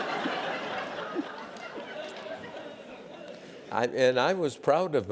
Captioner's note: laugh